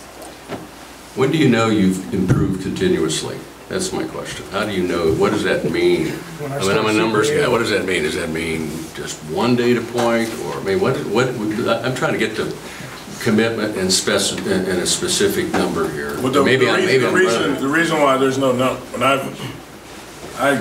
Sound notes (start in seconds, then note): 17.0 overlapping chattering